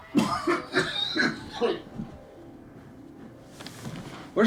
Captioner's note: father coughing